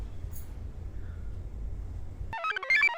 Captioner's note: chain clinks; computer chirps